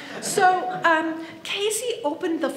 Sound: audience laughs

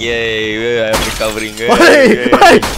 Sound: smashes

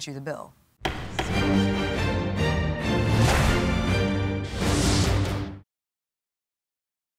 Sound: gavel hitting; upbeat music

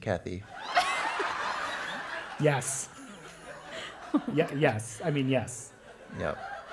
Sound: laugh

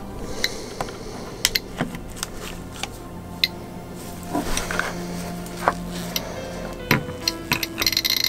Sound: geiger Counter Clicks ocassionally; geiger Counter begins clicking very rapidly

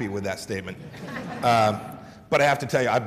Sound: laughter

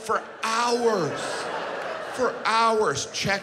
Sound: audience laughs

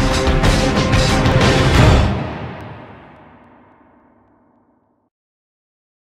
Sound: gt3 engine off… click

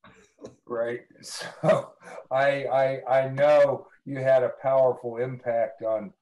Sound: laughs

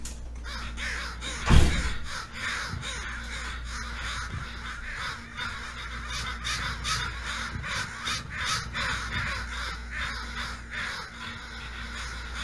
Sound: hundreds of crows cawing aggressively

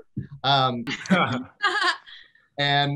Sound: all laugh

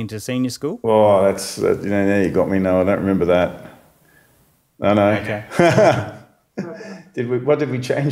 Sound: laughs

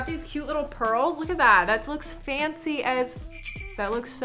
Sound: bells chime

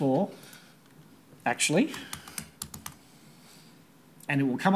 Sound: typing

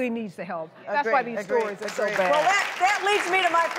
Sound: applause

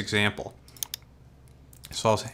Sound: mouse clicks

